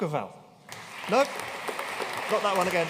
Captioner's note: audience applauding